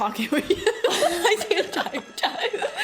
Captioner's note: laughs